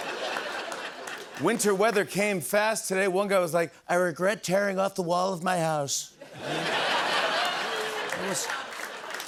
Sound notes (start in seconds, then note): 6.2 laughter